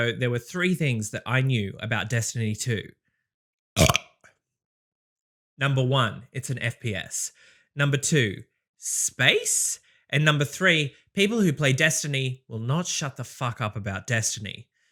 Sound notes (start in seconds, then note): 3.8 burp